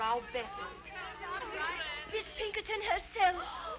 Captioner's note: girls chattering